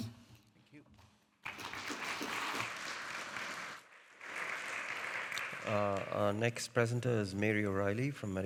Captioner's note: audience applauding